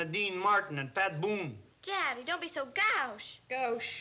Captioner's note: mispronouncing the word